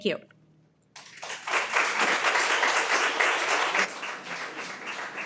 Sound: everyone applauds

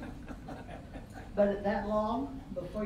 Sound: all laughing

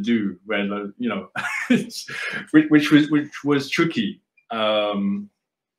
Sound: laughs

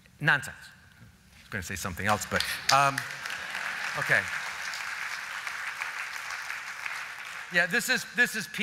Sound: applause

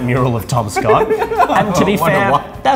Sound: all laugh

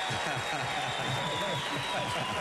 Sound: applause

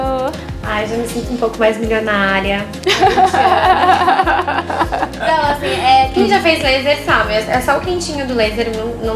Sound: laughs

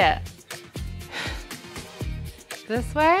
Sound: sighs

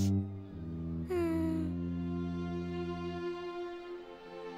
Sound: heavy sigh

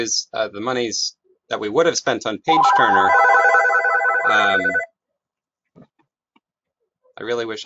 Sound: phone rings

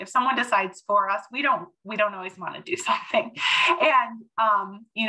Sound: chuckles

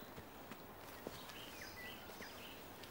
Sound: none

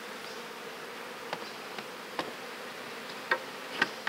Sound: bees buzz

